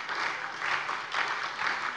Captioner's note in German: Lebhafter Beifall bei der SPD und der FDP